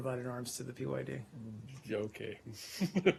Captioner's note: laughter